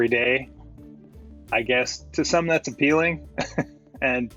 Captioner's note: chuckles